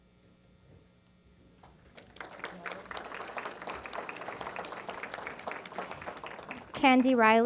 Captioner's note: applause